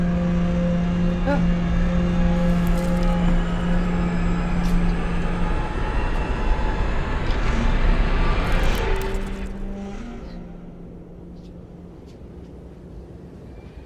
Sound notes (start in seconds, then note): 1.5 Len gasping; 10.3 wind howling